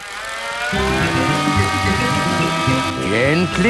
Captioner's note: beeps; plane humming